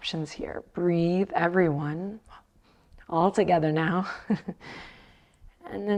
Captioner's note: chuckles